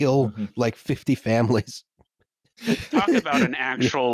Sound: laughter

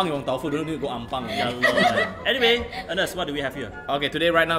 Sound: laughs

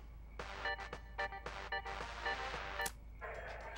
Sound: cell phone ringing

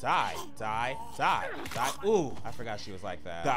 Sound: neck cracking

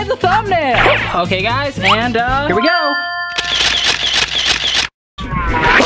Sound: camera clicking

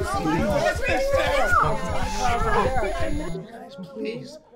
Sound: heart beat increasing

